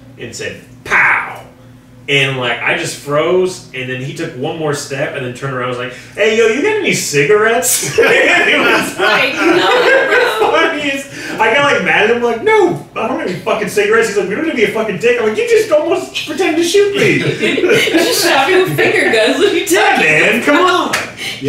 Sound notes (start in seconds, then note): 7.8 everyone laughing loudly; 16.8 laughing